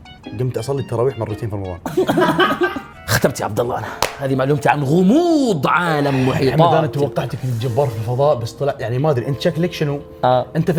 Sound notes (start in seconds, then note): 1.9 laughing